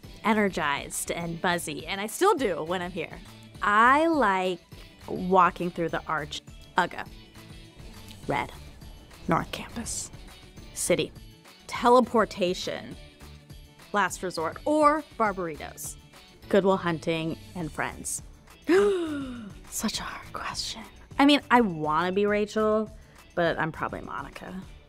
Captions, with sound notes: Energized and buzzy, and I still do when I'm here. I like walking through the Arch. Uga. Red. North Campus. City. Teleportation. Last Resort or Barberitos. Good Will Hunting and Friends. (gasps) Such a hard question. I mean, I want to be Rachel, but I'm probably Monica.